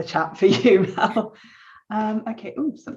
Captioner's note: chuckles